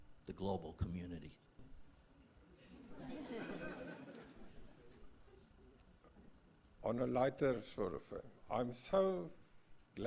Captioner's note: laugh